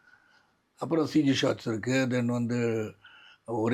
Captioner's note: computer-generated